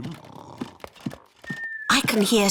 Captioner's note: snoring